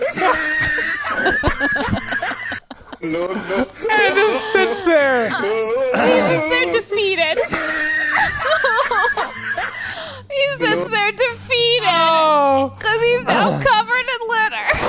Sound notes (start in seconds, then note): 0.0 person laughing; 0.1 laughing; 7.3 person laughing; 7.5 laughing